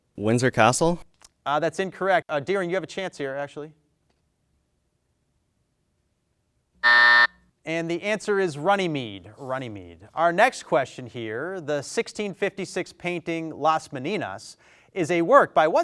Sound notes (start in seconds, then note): 6.8 buzzer sounds